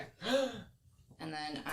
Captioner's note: gasps